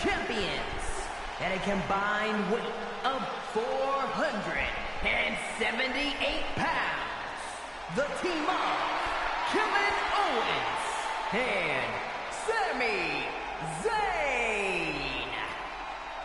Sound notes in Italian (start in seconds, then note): 4.0 Applauso